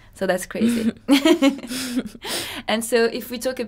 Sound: laughter

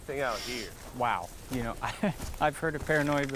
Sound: laughs

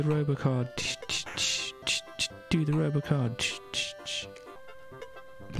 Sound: makes drums with mouth

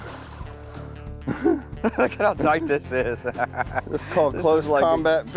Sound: laughing

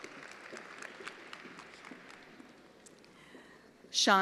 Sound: attendees applauding

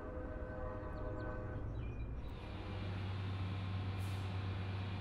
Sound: birds chirping

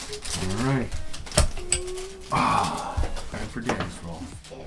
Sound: sighs

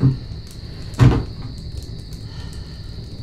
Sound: piano bench creak

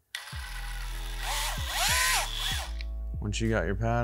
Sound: drill motor whirs

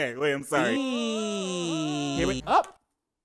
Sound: man whining

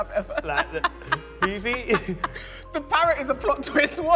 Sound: continues laughing

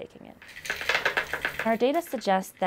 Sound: melatonin pills clattering

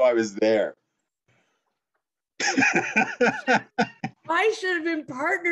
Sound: laugh

